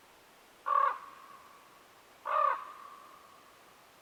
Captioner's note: bird cawing